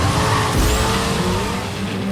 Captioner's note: engine revving